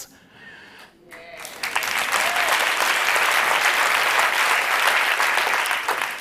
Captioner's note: applause